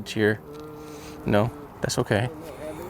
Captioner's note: groans